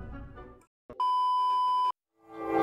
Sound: beep

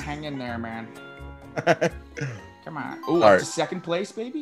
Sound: laugh

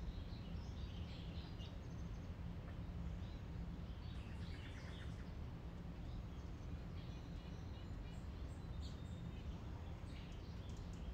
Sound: distant voices chatter; birds chirping

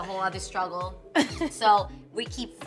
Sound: laughing

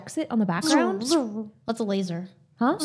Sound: mouth buzzes

